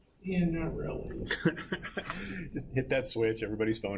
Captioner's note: laughing